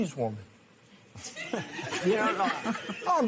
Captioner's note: laughter